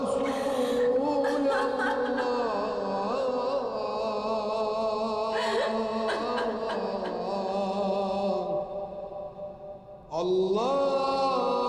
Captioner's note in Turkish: Ağlama sesleri